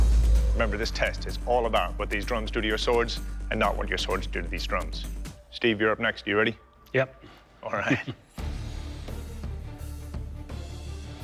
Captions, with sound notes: Remember, this test is all about what these drums do to your swords and not what your swords do to these drums. Steve, you're up next. You ready? -Yep. [chuckles] -All right. [dramatic music plays]